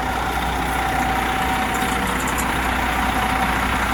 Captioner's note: RV engine running